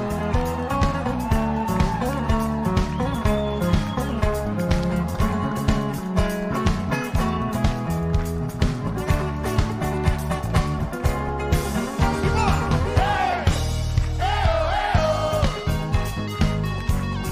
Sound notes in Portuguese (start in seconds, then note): 0.8 gritos; 1.6 aplausos